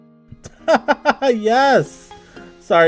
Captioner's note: laughter